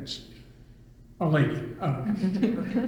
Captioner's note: all laugh